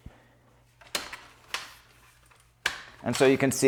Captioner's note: platform arm clicks